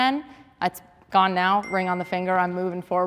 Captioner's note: phone chiming